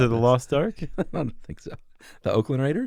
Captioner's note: laughs